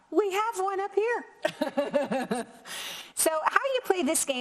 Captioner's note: both laughing